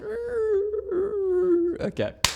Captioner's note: imitates sound